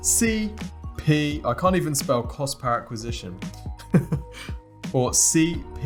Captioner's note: laughs